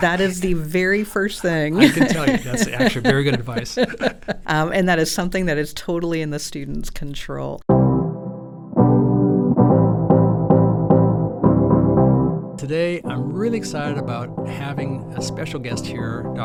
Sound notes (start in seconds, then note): 3.6 both laughing; 8.6 bright music